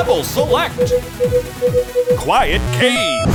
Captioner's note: beeping